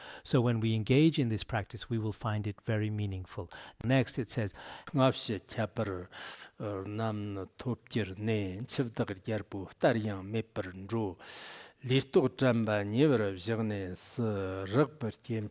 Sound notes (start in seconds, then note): 4.8 giving oral transmission in Tibetan